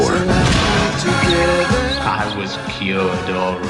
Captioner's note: sledgehammer bonking